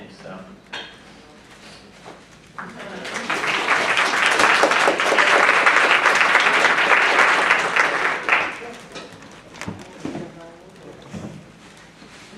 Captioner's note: applause